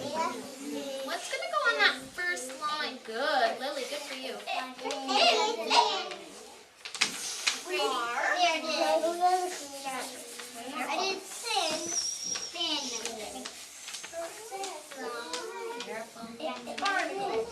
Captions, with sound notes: What's gonna go on that first line? Good Lily, good for you. (children chatting)